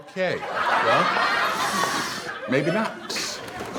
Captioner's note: audience laughs